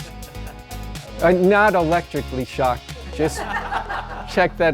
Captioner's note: student chuckling; students laughing